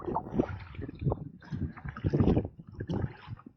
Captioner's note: wind & paddling